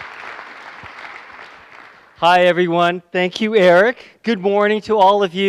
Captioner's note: applause